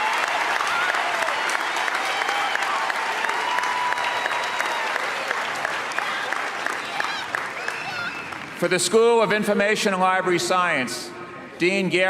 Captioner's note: cheers and applause